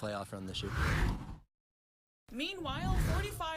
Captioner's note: air whooshes